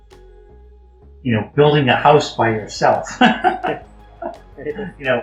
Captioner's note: Risas